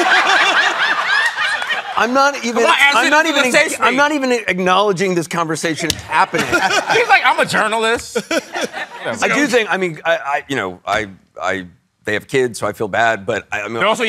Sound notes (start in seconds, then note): 0.0 laughter; 8.2 chuckles